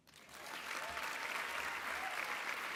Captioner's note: applause